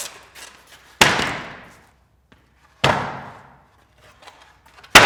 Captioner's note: wood bangs